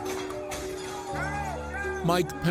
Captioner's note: glass breaking